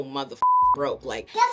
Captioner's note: beep